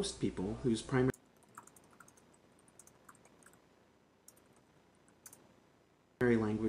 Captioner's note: typing